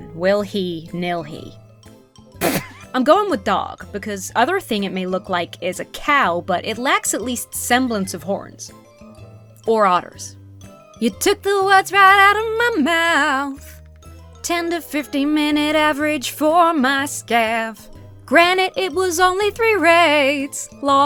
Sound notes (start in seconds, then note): 2.4 splutters